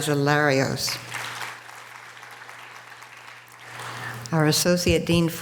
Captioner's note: audience applause